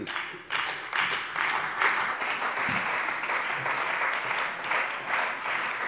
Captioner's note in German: Beifall bei der CDU und dem BÜNDNIS 90/DIE GRÜNEN